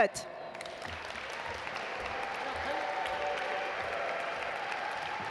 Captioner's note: audience applaud